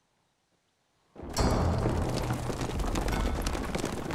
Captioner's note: thunderous galloping